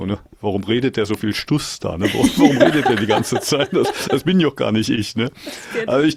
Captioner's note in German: gelächter